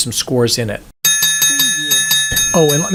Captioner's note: bell dings